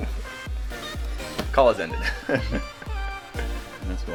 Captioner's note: laughing